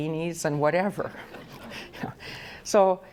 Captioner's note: audience laughs